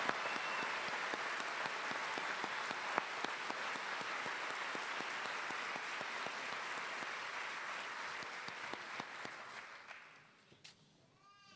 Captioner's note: cheers and applause